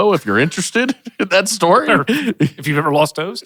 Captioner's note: chuckles